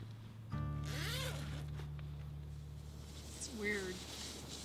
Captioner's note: zip hissing